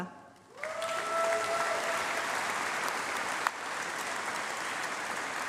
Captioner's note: applause